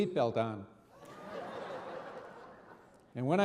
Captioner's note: audience laughing